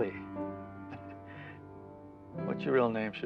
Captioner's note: chuckling